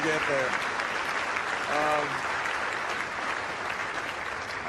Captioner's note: crowd applauding